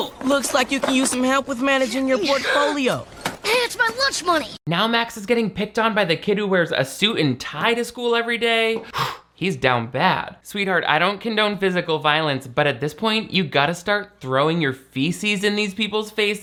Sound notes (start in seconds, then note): 2.5 Megan gasps